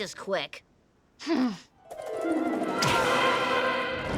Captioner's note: Milo sighs